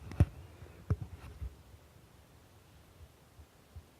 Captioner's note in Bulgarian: тишина